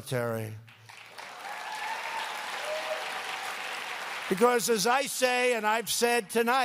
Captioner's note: applause